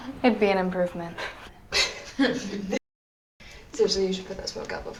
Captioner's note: laughter